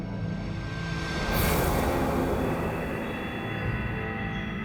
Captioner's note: swooshing; suspenseful music